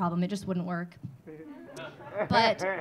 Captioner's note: audience laughing